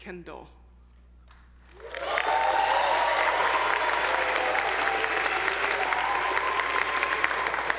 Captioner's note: attendees applauding; audience cheering